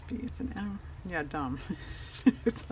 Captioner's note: laughs